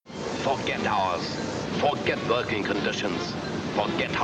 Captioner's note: radio Announcer